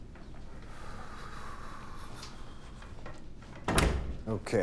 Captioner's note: agent exhales